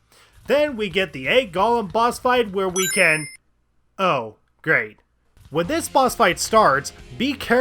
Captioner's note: ring